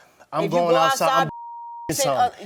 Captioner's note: beep